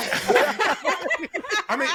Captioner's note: laughter